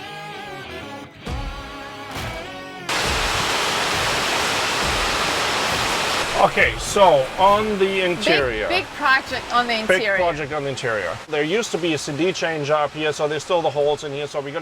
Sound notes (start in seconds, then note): 0.0 upbeat rock music; 3.5 rain whooshing